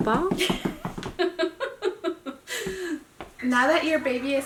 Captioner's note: laughs